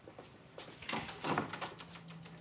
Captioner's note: door opens